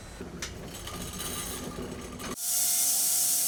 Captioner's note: metal scraping; saw whirring